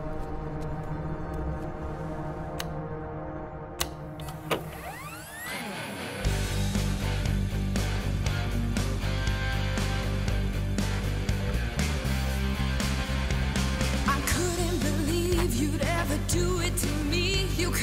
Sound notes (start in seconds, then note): 3.8 buttons clicking; 4.2 machine whirring; 5.6 energetic rock music